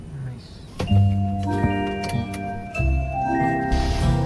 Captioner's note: door opening